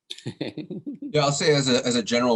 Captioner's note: laughing